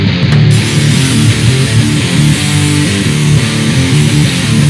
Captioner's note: power tool drilling